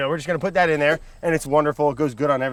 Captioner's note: air whooshes